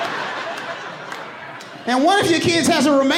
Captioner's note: audience laughing